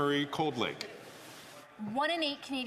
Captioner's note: some Applause